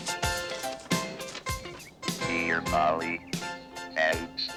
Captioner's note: computer voice